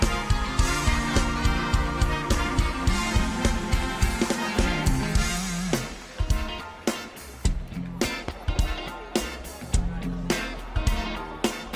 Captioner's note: applause